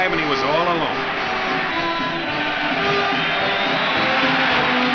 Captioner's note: crowd cheers